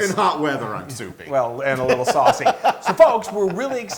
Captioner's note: laugh